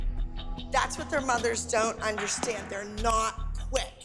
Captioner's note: snapping